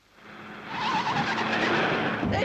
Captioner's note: tires screeching